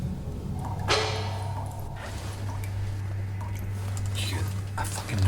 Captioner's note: objeto pesado clanks